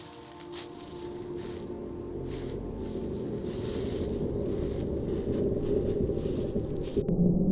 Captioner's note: deep rumbling